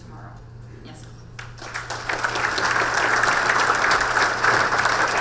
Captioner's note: audience applause